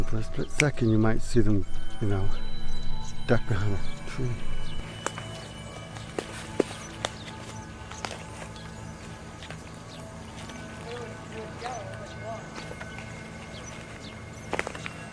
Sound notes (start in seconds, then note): 5.1 suspenseful music; 5.1 tree branches cracking; 10.5 people faintly talking